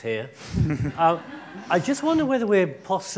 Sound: laughing

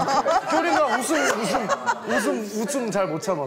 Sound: she laughs a lot

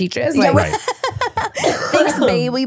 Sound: laughing

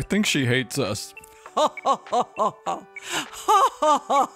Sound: evil laughter

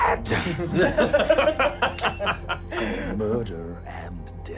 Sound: laughing

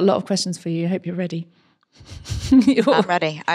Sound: laughs

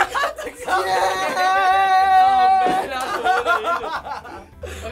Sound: laughter

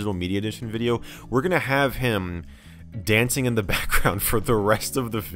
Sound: chuckling

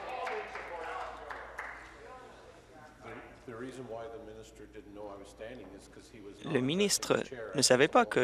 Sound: voice trailing

